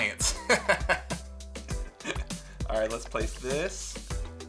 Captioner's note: laughs